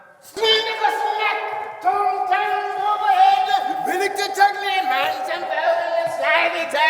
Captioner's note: none